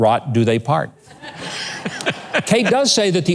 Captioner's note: laughs